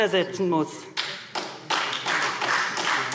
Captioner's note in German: Beifall SPD und Freie Demokraten